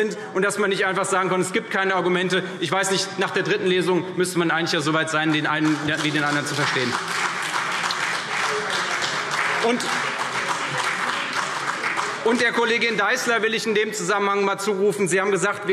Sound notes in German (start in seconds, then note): 9.2 Beifall CDU